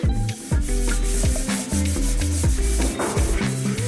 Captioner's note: scrubbing metal